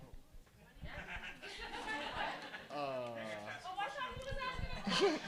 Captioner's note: audience laughing